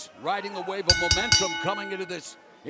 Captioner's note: bell ringing